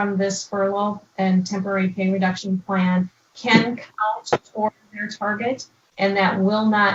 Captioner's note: mic cut out